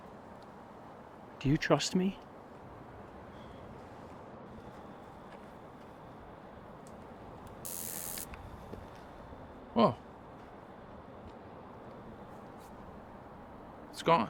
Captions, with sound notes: Do you trust me? [Buzzing sound] Whoa. It's gone.